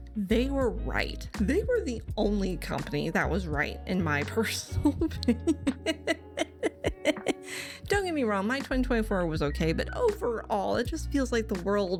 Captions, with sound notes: They were right. They were the only company that was right in my personal opinion. [extended laughter] Don't get me wrong, my 2024 was okay, but overall, it just feels like the world.